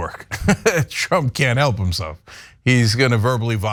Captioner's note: laugh